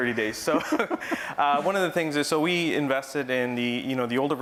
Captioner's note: laugh